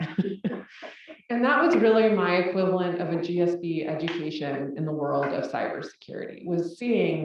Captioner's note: laugh